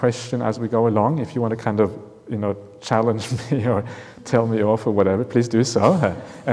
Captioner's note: chuckles